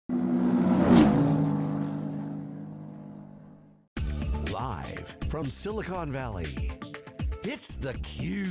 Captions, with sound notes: (car engines) >> [Voiceover] Live from Silicon Valley, it's theCube,